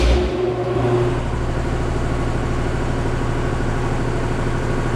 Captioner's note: air compressor whirring